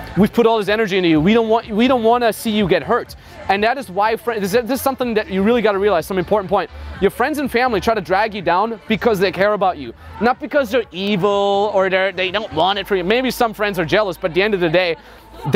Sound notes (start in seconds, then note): none